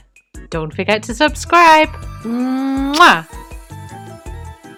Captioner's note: kissing sound